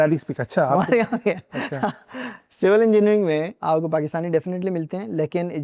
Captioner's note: laughs